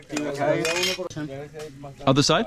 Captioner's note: speaking in foreign language